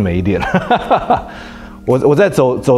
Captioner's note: laughs